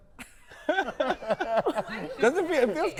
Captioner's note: all laughing